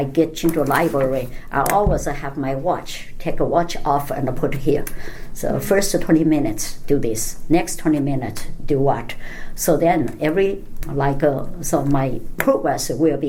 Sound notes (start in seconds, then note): none